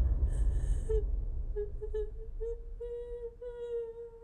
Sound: Maddie sobbing

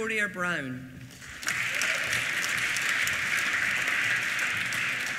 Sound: applause

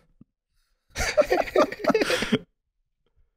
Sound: giggling

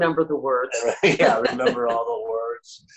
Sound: both laugh

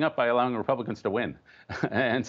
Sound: laughter

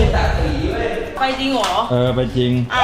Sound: pat

